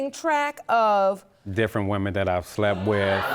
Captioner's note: audience gasps